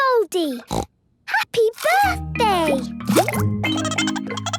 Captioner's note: snorting; Goldie giggling